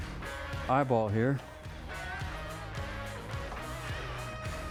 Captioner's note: clapping